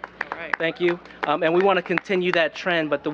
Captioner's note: applause